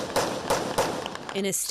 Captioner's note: gunshots